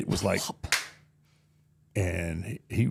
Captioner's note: Undertaker clapping